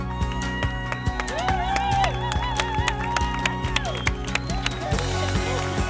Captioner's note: applause